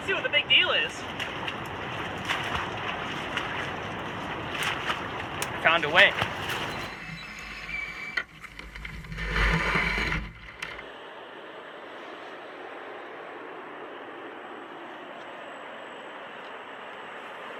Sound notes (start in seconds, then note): 6.5 canoe screeching; 11.4 water rushing